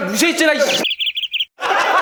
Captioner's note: beep